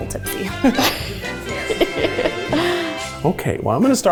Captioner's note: laughs